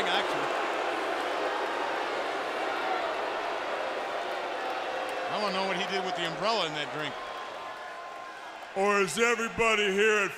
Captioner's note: crowd chatter